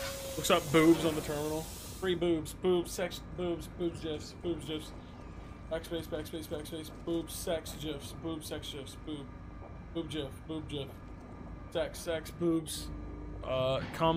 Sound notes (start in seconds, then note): none